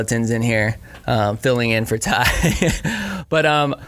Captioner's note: laughing